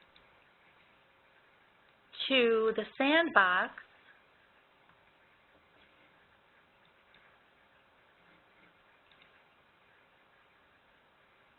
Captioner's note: slight pause